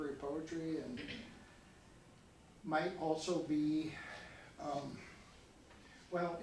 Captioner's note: sighs